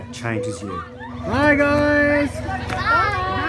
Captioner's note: children laughing